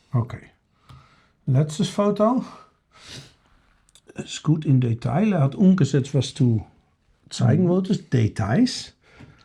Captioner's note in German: schnauben